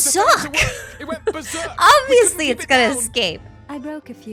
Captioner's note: laughs